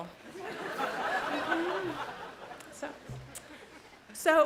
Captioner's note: audience laughs loudly